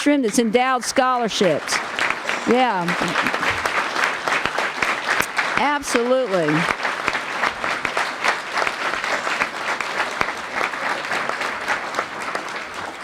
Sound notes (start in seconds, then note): 1.7 applause; 7.0 applause